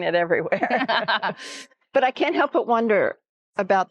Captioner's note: laugh